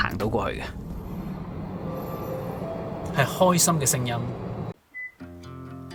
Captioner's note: the sound of a car engine